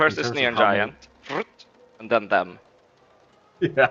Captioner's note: makes flitting noise